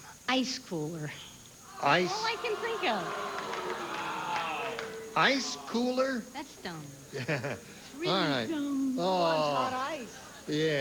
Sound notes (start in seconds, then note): 3.5 audience booing